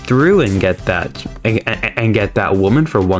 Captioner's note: stutter Moment